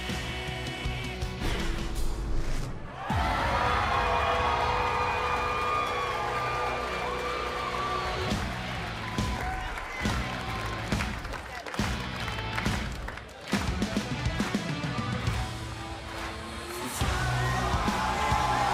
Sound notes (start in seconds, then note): 3.9 cheers & applause